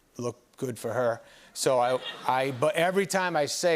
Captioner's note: laughter